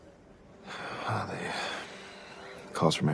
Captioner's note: sighs